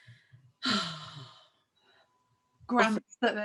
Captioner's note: sighing